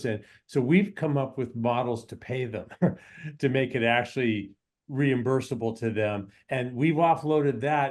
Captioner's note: laughs